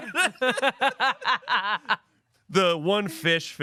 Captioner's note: laughing